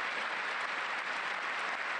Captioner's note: applause